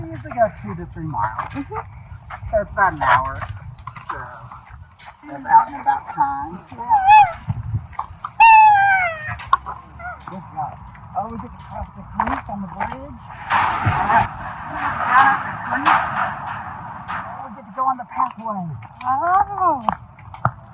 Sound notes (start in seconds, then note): 6.8 vocalizes